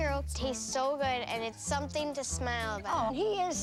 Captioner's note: none